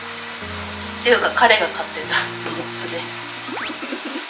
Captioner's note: laughs